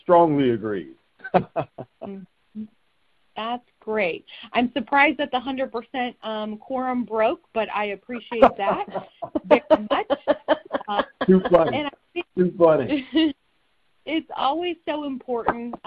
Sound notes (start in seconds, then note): 1.2 chuckling; 8.2 laughing